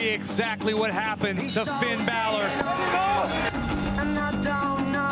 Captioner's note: bell ringing